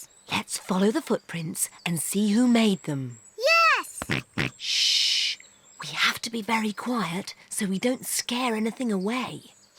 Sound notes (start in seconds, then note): 4.0 snorts